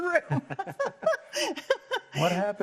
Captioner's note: both laugh